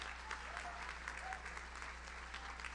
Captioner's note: audience cheers; audience applauds